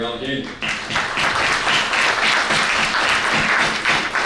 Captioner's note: audience clapping